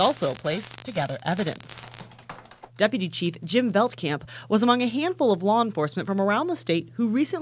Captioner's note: nats typing